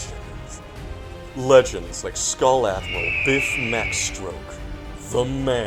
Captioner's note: eagle caws